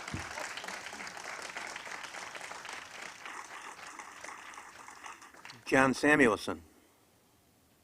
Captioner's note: applause